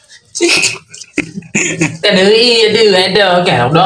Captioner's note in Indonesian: tertawa